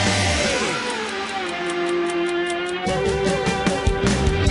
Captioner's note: ticking; energetic rock music